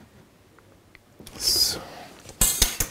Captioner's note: quietly